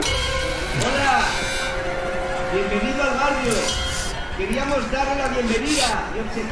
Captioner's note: dramatic music; man speaking in foreign language